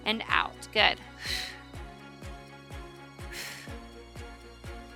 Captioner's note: breathes heavily